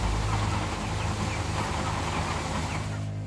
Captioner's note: intensive farm sound